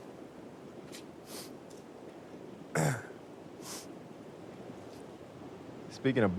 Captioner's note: Lance sniffs and clears throat